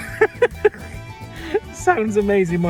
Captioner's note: laughs